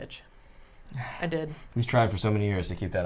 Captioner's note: sniffs